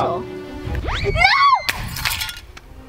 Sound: screams; glass shatters

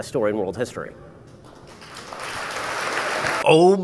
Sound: audience applauds

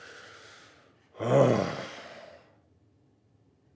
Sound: growls

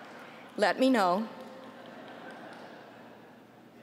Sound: laughter

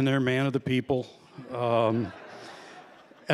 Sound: laughter

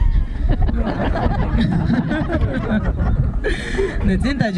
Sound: laugh

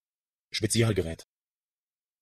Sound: fast Pronunciation

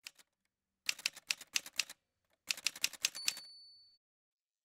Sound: typewriter sounds

